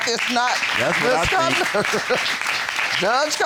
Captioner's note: laughs